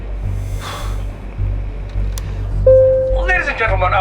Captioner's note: exhale